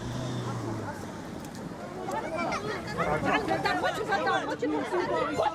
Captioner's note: all speaking foreign language